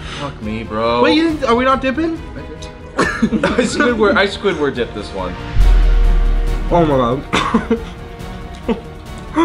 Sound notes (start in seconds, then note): 2.9 laughter; 4.6 dramatic music